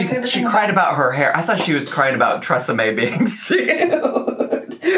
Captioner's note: laughs